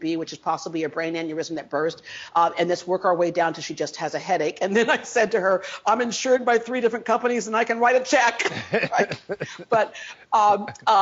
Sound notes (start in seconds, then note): 8.4 laughs; 8.4 interviewer laughs